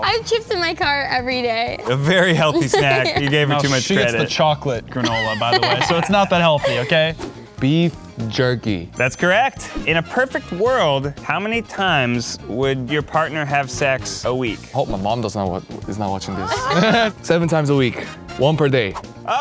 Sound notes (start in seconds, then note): 16.3 laughing